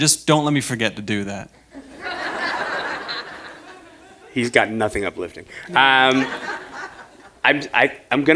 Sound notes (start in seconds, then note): 2.4 chuckle